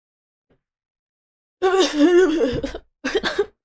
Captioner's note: the most inhuman noise possible; cough cough